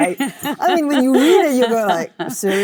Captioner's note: Cate laughs